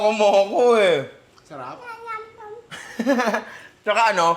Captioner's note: laughs